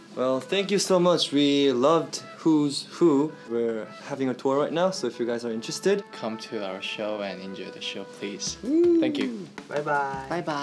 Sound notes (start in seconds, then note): 8.4 cheers quietly